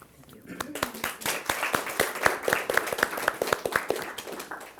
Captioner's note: audience applauding